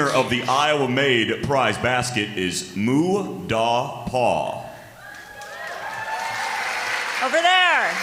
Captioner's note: applause